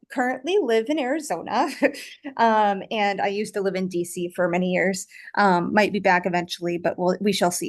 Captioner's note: chuckles